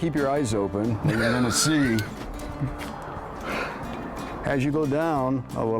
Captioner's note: laughter